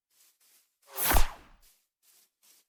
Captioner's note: poof